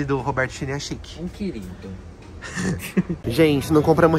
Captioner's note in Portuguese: risos